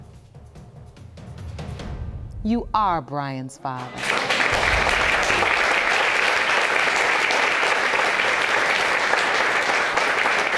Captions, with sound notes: you are Brian's father. (AUDIENCE APPLAUDING)